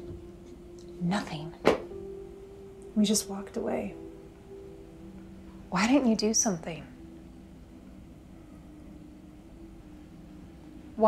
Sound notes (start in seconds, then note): 1.6 hands thudding; 7.1 crickets chirping